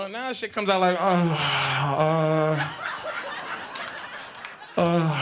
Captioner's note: groaning